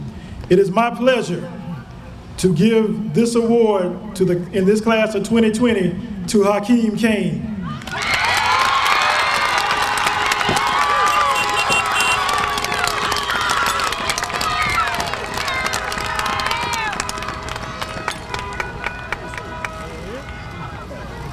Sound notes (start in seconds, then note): 7.7 cheers and Applause